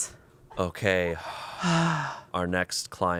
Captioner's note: sighs